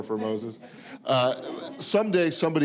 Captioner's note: audience laughing